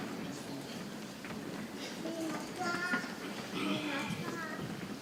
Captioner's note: people chattering softly